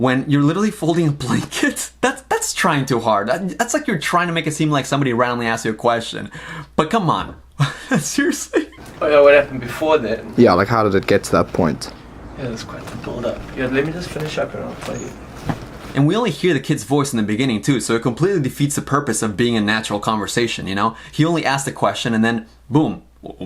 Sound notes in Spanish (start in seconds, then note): 7.5 risas